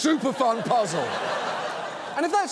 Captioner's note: audience laughs